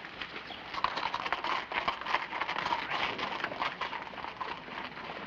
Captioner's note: horse hooves clacking